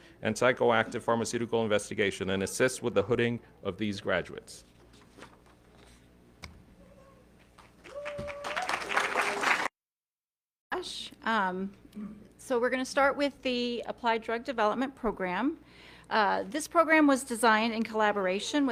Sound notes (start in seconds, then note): 7.5 audience clapping